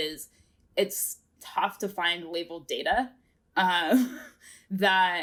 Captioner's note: chuckles